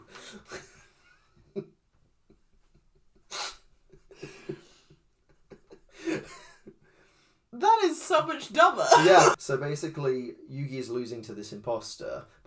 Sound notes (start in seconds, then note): 8.8 laughs